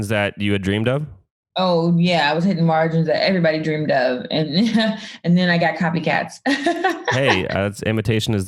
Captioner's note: laughs